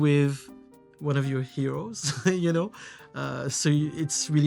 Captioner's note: chuckles